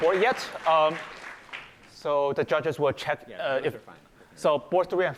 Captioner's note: applause